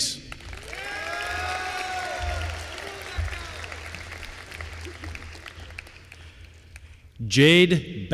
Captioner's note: applause